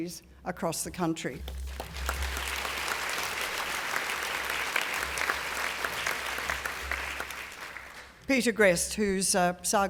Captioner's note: applause